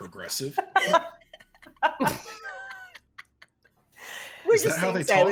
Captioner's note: people laughing